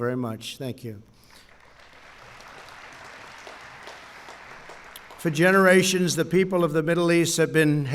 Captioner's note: applause